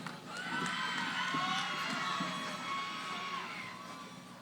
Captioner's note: cheering